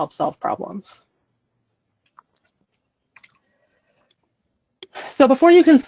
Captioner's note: silence